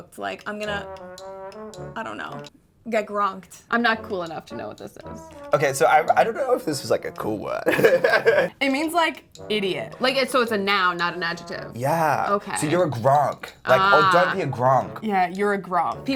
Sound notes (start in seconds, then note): 7.6 laughing